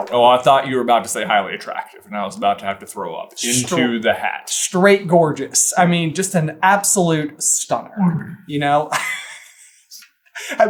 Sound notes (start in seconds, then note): 7.6 gags; 8.9 cracking up